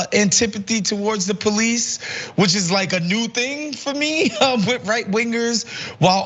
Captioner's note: laugh